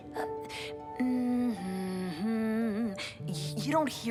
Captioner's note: Jae hums